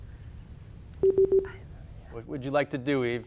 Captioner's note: buzzer bleeping